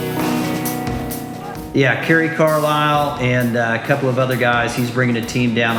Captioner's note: talking on phone